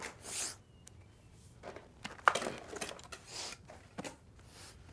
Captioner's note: Nathan sniffling